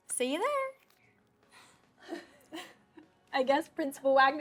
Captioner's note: both laughing